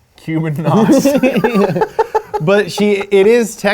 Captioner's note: both laugh